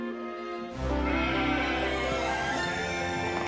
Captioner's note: sheeps bleating